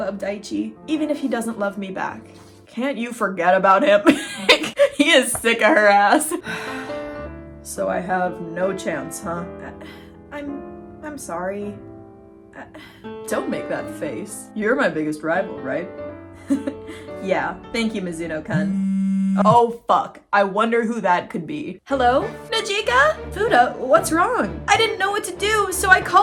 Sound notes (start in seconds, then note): 4.7 cracking up; 7.1 sad music; 16.5 laughs; 18.5 phone vibrating; 19.5 sarcastically; 22.0 intense music